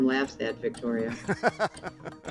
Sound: laughing

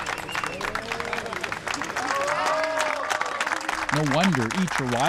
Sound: crowd cheers; miners cheering

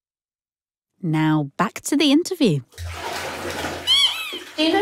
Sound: squeak of a rubber duck

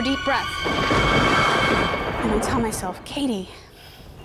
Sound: thunder crashes

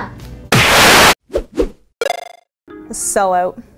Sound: video game sounds

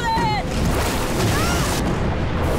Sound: screaming

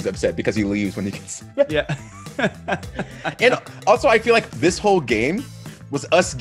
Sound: laugh

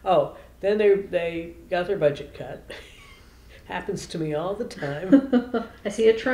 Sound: laughter

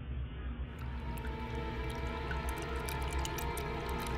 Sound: suspenseful music; water pours

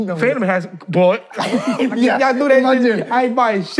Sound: laughing

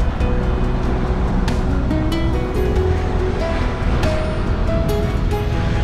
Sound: drone

